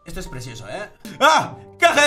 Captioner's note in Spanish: Grita